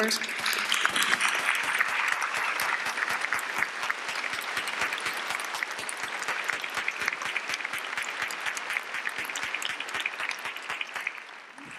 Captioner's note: applause